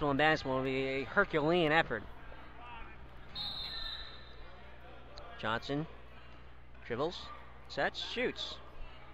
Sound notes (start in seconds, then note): 3.3 whistle blows